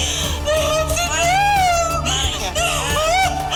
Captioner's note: crying